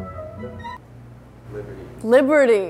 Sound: voiceover

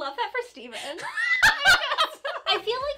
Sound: laughing

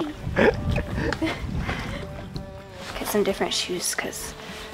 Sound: both laughing

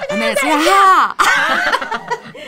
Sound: exclaiming and cheering; laughing

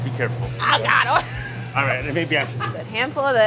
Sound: laughs

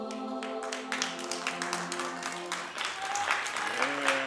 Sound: applause, cheers

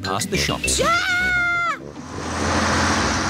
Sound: shrieks

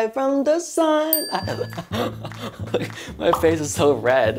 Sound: bell dings; laughing

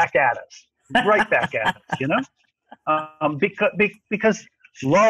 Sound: laughs

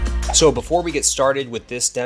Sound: graphics whooshing

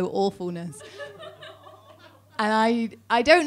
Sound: audience laughing

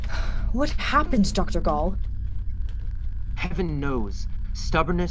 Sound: exhales

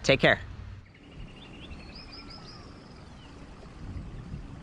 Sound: birds chirping

